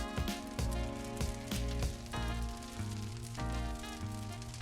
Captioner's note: campfire burning; relaxed music